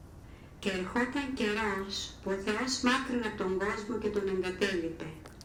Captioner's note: Marios' mother speaks Greek